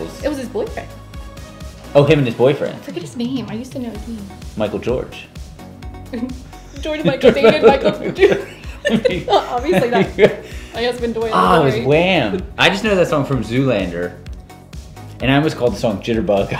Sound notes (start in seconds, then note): 11.3 laughing